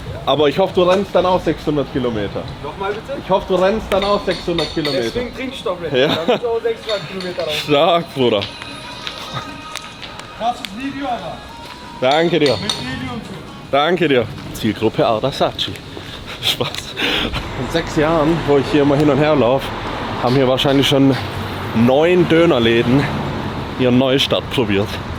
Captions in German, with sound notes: aber ich hoffe, du rennst dann auch 600 km. Noch mal bitte. Ich hoffe du rennst dann auch 600 km. Deswegen trink ich doch auch 600 km. Stark Bruder. Krasses Video, aber danke dir mit und so. Danke dir. Zielgruppe Adachi. Spaß. Von se [schnauben] Jahren, wo ich hier mal hin und her lauf, haben hier wahrscheinlich schon neun Döner Läden ihr neu Stadt probiert.